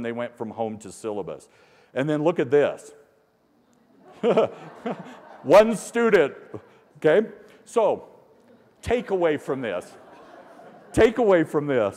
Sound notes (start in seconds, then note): 6.9 laughter